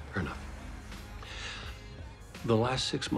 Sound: inhales sharply

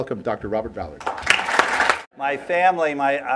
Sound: applause

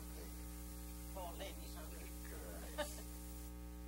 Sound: laughter

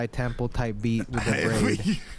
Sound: laughs

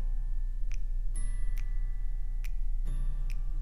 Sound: none

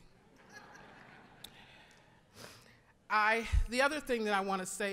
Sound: audience laughing

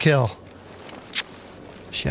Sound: kissing sound

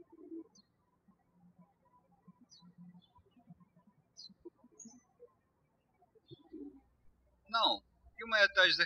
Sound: birds chirping

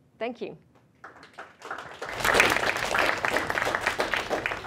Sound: applause

